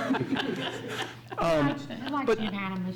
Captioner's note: laughs